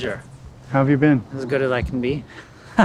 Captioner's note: laughing